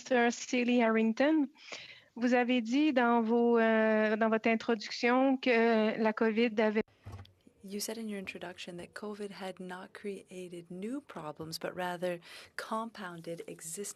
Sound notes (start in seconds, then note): 5.7 speaking French